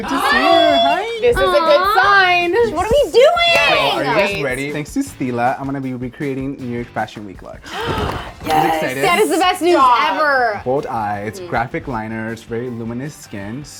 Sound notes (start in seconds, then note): 7.6 gasping